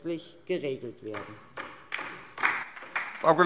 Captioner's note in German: Beifall DIE LINKE